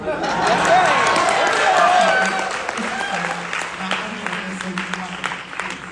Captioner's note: audience applauding